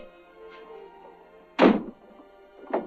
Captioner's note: door slams